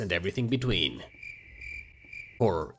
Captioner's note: crickets chirping